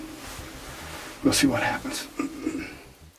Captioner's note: whispering